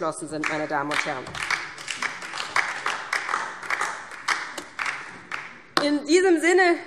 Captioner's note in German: Beifall DIE LINKE